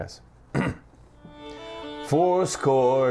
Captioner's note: clears throat